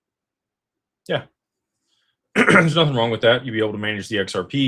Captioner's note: clears throat